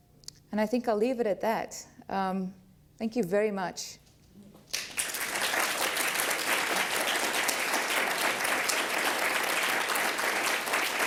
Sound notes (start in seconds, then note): 4.7 applause